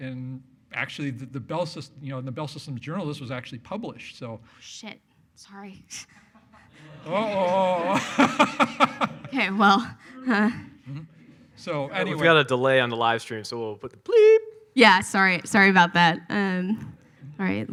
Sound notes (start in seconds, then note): 6.2 laughs; 6.3 audience laughs; 10.9 groans